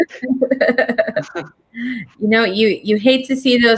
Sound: laughter

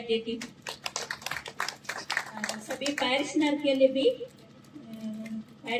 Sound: applause

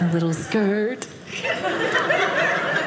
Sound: audience laughing

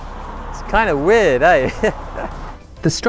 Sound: laughs

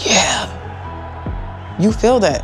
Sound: crowd cheering

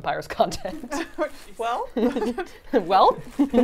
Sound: laughs

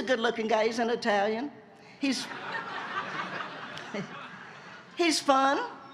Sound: laughter

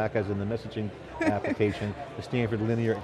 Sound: laughs

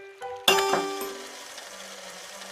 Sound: piano sound; tap Sound

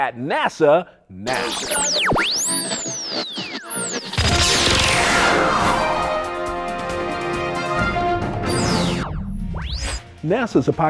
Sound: sound Effects

